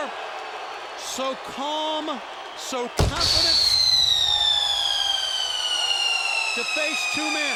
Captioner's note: fireworks popping